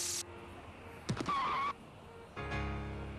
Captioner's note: skidding